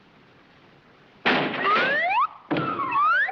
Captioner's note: door shatters; body slams